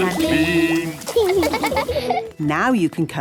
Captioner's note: laughing